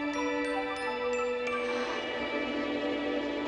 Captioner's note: all gasping